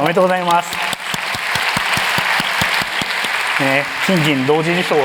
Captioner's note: applause